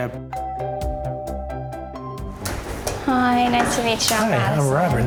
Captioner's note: doorbell rings